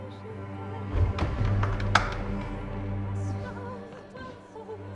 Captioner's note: door thuds; eerie music continues